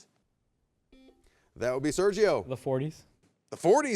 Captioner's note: buzzer beeps